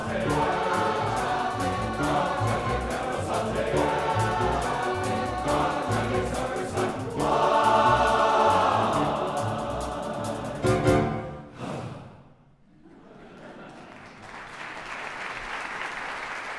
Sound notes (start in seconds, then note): 11.5 sigh; 13.2 audience applause